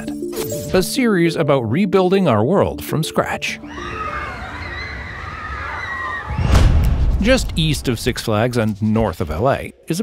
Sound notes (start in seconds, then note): 3.6 people screaming; 6.2 dramatic music